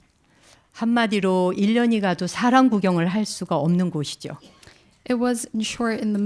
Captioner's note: speaking in Korean